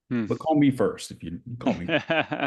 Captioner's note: laughing